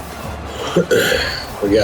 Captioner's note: crowd Noises